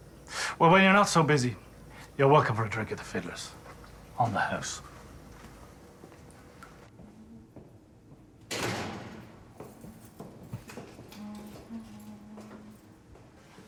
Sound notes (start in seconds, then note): 8.5 door clangs; 9.5 footsteps approach